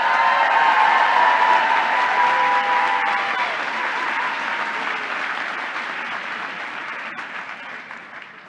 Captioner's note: applause